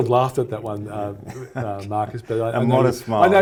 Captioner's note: chuckles